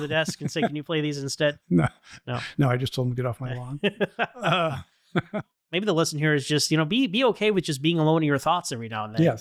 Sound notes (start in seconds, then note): 3.7 laughter